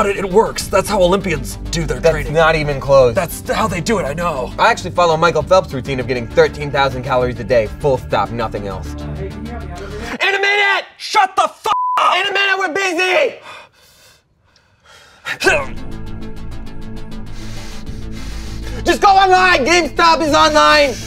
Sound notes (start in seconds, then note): 9.0 distant voice; 10.0 yells; 11.7 beep; 13.4 both men grunt